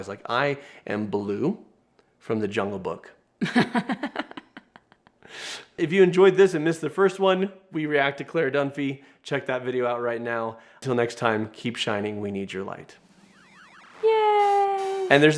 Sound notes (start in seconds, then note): 3.4 laughs